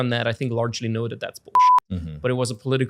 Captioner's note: beep